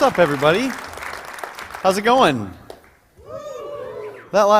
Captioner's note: cheering